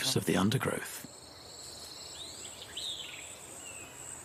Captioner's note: birds chirping